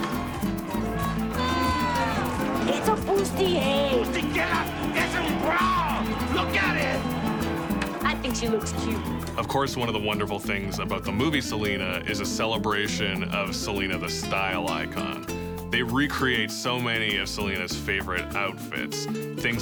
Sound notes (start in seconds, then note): 0.1 upbeat music; 4.2 speaks in foreign language